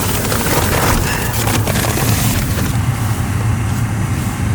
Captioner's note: paper rustling